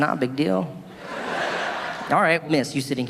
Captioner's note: audience laughing